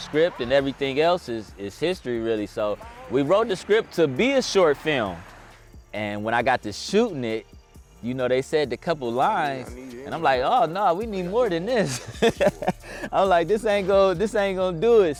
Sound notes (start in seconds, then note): 11.8 laughs